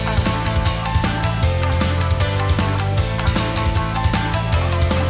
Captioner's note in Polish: Aplauz